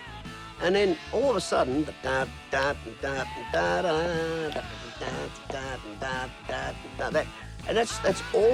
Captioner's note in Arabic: يقلد أوتار الجيتار